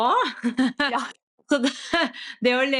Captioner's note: laughter